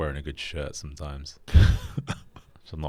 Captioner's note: chuckles